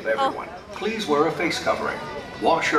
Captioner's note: automated voice